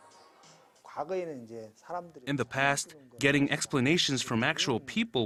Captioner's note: Korean